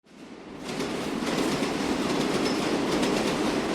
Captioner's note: subway whooshing